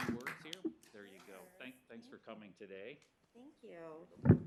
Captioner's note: applause